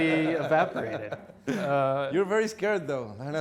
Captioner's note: laughing